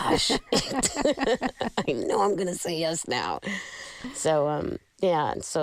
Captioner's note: laughter